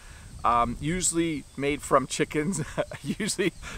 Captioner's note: laughs